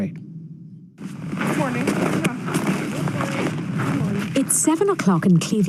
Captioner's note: whooshing sound